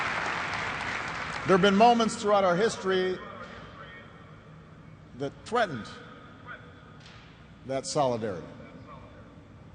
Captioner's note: applause